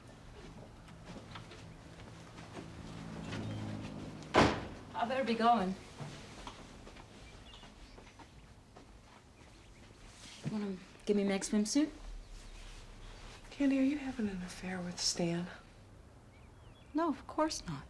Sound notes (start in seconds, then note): none